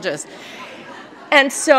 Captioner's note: laughter